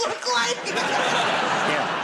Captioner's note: laughter